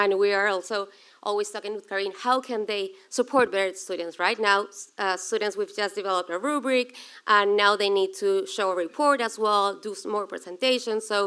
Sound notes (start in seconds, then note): none